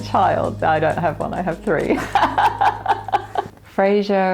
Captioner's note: laughs